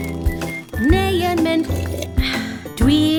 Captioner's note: sound of slurping